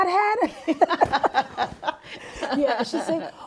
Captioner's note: laughing